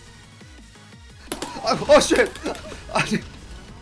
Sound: laughing

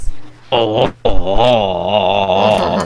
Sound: starts laughing in French

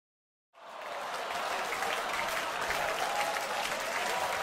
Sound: hooting and applause

